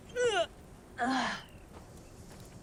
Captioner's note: grunts